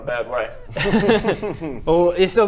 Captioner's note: ominous laugh